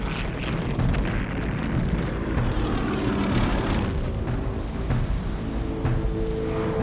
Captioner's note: plane engines roaring; bombs exploding